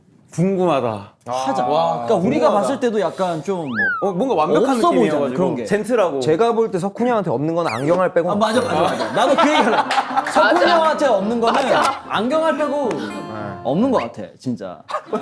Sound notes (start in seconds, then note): 8.8 burst out in laughter